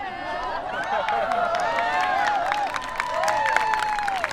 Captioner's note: people cheering